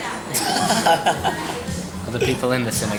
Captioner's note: laughs